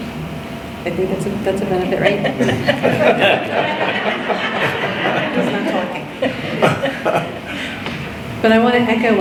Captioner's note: laughter